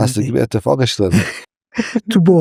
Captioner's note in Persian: خنده